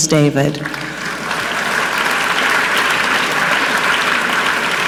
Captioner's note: audience clapping